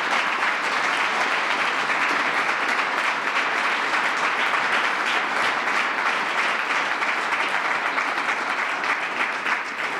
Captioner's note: applause